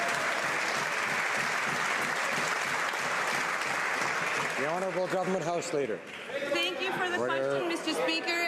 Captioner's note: some Applause